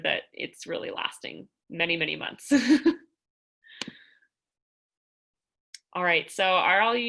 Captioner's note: laughter